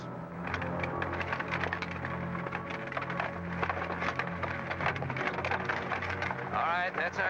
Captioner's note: carriage rattling